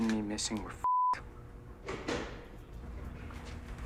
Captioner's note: door closes